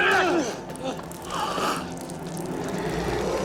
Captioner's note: blood dripping